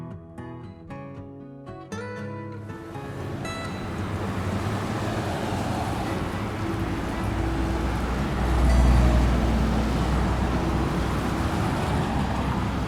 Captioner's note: traffic sounds